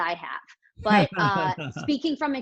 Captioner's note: laughing